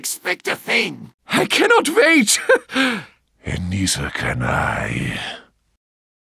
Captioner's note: with an obscure voice